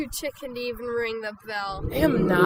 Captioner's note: audience "oooh"ing